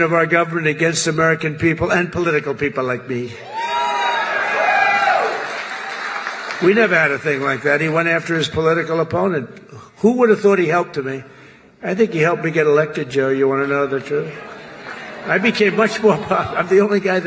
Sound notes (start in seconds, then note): 3.8 applause; 14.2 laughter